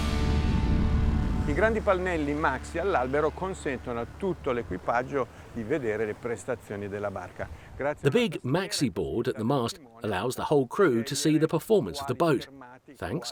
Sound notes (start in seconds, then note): 2.4 speaking in foreign language